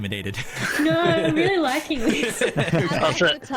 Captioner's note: laughs